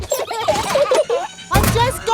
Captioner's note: children giggling